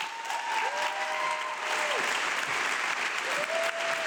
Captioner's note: audience clapping